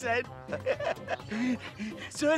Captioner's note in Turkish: Gülme sesi